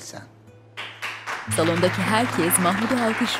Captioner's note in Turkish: Alkışlar